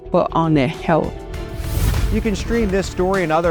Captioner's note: scene swooshing